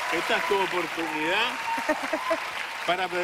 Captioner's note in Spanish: Se entrecorta la voz